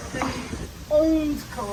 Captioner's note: customers calming walking